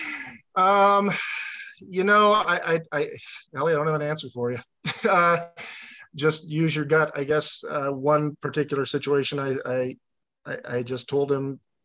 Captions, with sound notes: [sighs] Ellie, I don't have an answer for you. [laughs] Just use your gut, I guess. One particular situation, I just told him...